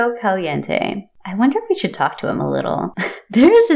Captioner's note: laugh